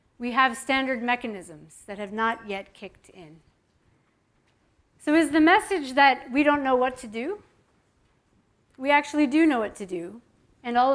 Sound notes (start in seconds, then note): none